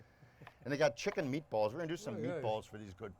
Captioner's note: none